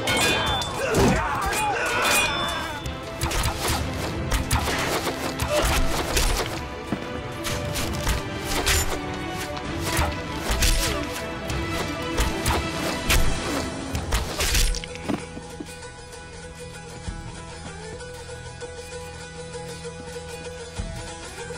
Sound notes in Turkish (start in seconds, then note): 3.2 Ok sesleri